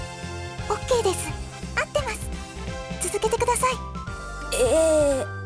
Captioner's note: whisper